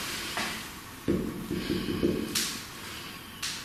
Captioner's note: knocking